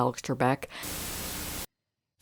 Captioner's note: Static